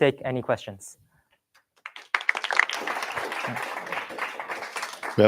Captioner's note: applause